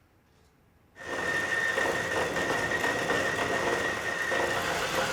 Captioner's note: metal grinding